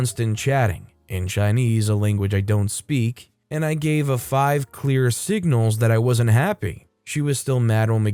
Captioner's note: in Chinese, a language I don't speak